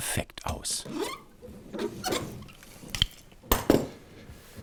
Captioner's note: soft squeaking